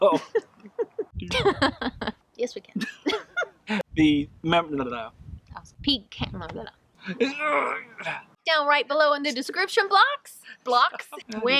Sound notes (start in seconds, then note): 0.0 both chuckling; 2.8 both giggle